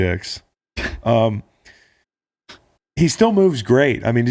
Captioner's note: laughing